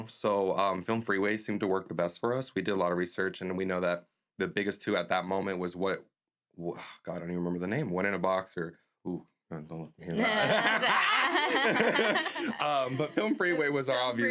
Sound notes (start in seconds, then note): 10.2 laughs